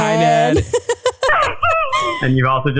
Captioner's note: laughing